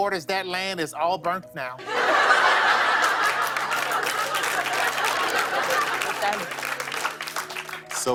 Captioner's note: laughter and applause